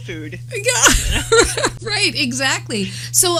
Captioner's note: laughter